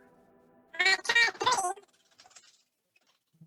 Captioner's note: high-pitched babbling